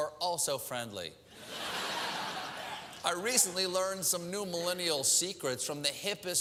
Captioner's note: laugh